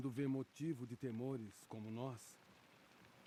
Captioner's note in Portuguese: none